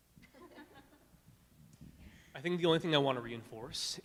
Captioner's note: laughing